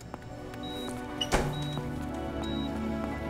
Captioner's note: Door closes